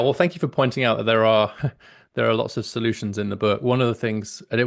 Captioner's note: laughs